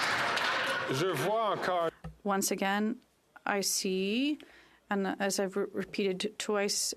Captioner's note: some Applause